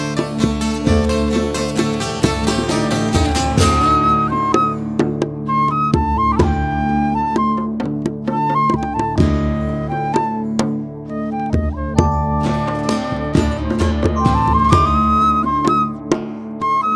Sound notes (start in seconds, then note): none